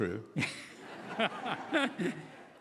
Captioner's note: laughing